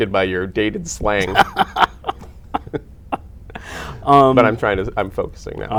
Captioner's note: laughter